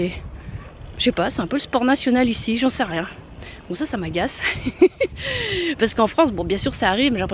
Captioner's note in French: rire